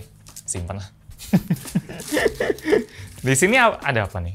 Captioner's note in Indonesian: tertawa